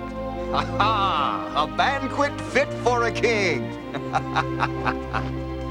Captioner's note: laughs